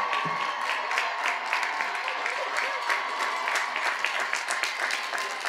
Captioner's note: cheers and applause